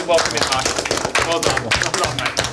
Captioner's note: clapping